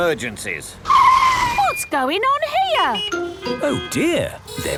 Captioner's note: brakes screeching; honking